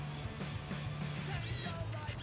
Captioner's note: click!